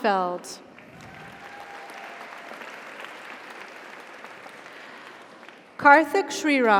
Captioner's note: audience applauds; audience cheers